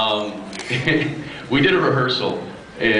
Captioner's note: laughs